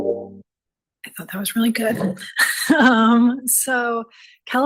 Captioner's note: gentle upbeat music; laughs